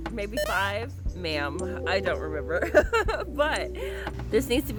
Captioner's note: laughs